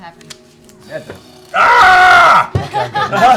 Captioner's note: screams; laughter